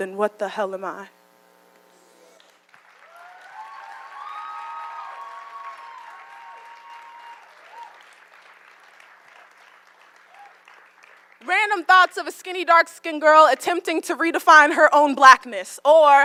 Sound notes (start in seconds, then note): 2.4 applause